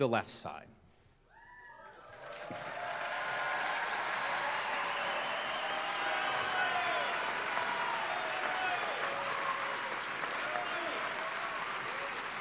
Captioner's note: applause